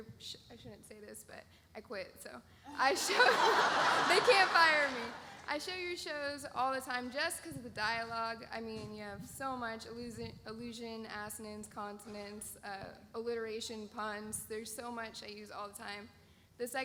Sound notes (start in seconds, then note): 2.8 laughs